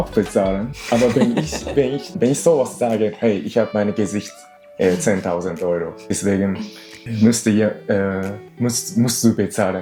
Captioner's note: laughs